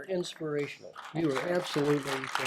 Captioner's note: applause